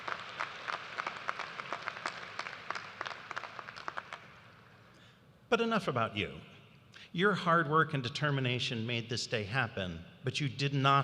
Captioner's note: applause